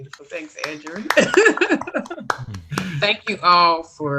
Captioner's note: laughter